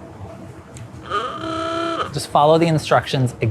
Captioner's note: horn honking